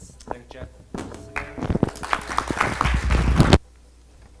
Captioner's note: audience applause